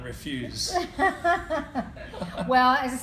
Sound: laughing

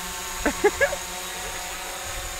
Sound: chuckles

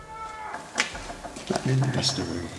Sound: door creaking

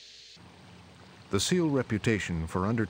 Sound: voiceover

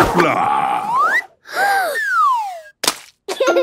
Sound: Peppa gasps; splat

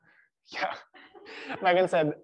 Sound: patrons laughing

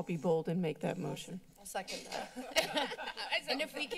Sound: laughter

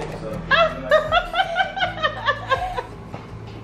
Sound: laughs

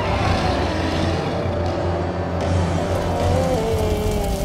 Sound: grumbling angrily; moaning

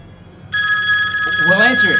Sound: phone ringing

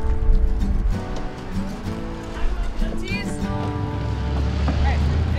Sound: indistinct conversation

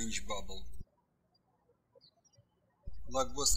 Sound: birds chirping

